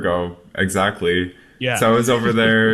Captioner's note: laughs